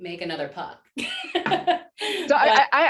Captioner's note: laughter